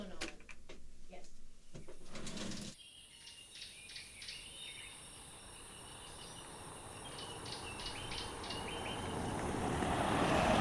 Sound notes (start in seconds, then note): 0.2 birds chirping; 5.2 truck rumbling